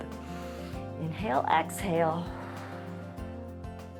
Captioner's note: inhales; exhales